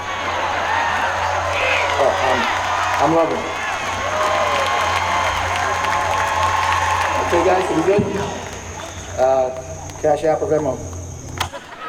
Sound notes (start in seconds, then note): 0.0 audience cheering; 4.2 audience cheering and clapping loudly